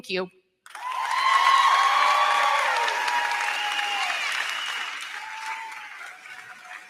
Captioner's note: crowd cheering; crowd clapping